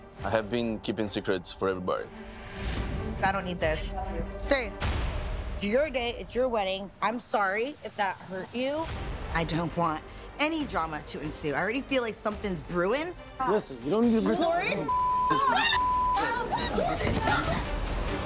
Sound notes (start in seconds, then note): 15.2 shrieks